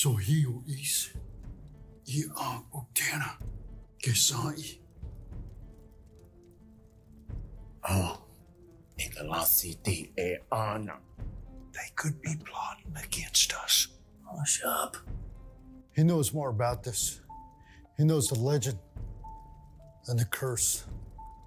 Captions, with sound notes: [Speaking Cherokee language] Are you sure this is Uktena? [Speaking Cherokee language] Yes, without any doubt! They could be plotting against us. Oh, shut up. He knows more about this. He knows the legend... and the curse.